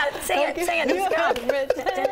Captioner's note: laughter